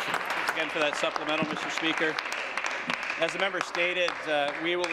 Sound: applause

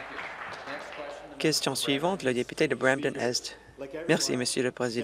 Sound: applause

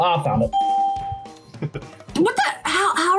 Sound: bell rings; laughs

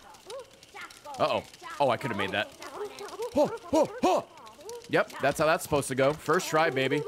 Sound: gasps

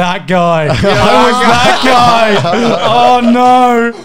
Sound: men laughing

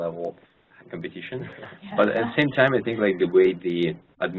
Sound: laugh

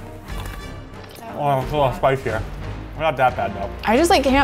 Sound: tense music plays; bites loudly

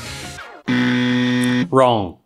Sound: error sound

